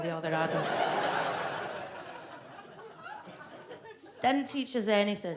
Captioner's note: audience laughs